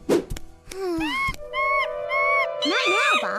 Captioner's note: Bob chatters loudly